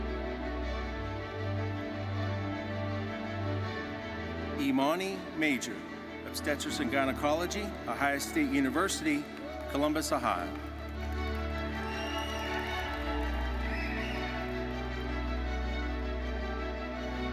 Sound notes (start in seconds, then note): 11.0 audience cheering and applauding